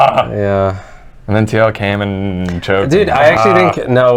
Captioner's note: groans